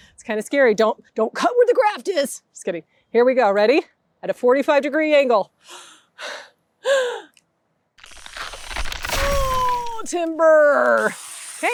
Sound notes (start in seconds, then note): 8.0 tree cracking